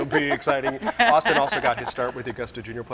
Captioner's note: laughing